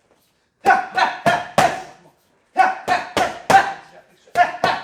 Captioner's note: exclaiming